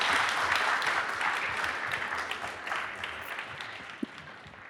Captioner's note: audience applauding